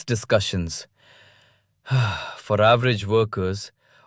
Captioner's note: sighs